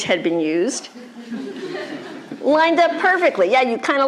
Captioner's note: laughter